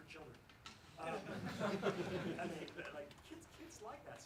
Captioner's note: laughs